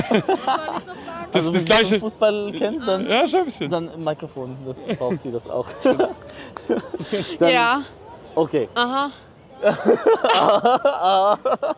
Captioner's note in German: gelächter; gelächter